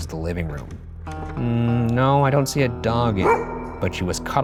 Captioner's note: dog barks